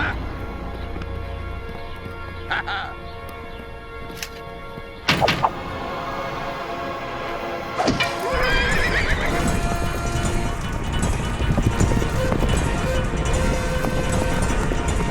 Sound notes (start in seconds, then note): 5.0 arrow striking; 7.8 horses whinny; 9.8 horses galloping; 11.3 driving orchestral music